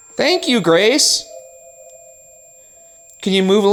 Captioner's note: REM-Pod beeping